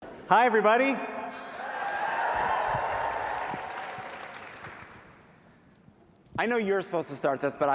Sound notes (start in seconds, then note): 1.4 cheering; 1.8 applause